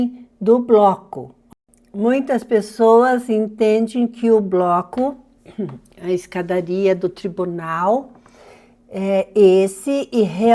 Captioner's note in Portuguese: limpando a garganta